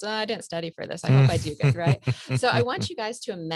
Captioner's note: laughs